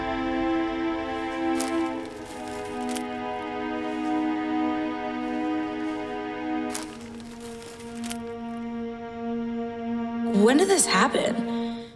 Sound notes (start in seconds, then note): none